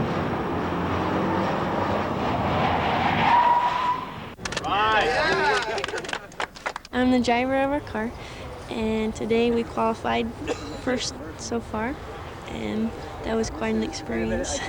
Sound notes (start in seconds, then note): 0.0 cars revving and whirring; 3.3 tires squeal; 4.6 cheers; 13.8 chuckles happily